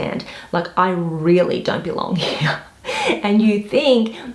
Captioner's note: chuckles